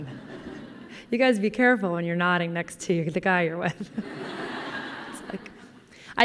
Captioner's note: laughter; laughter